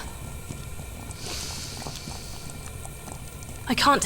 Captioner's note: she sniffs again